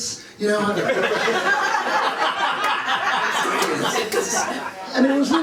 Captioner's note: laughter